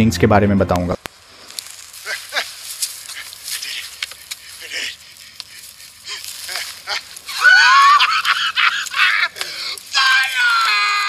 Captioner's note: Fire smoldering